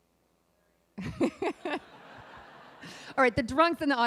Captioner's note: laughing